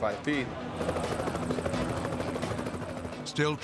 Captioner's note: helicopter whirring